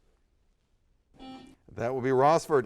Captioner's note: buzzer sounds